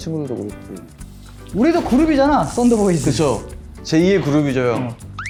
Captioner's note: thunder rumbles